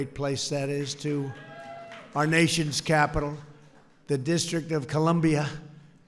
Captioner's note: applause